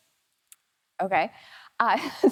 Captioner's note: laughs